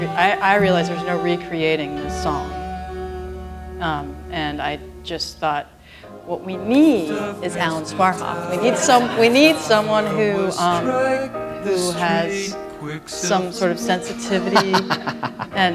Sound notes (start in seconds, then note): 8.6 laughter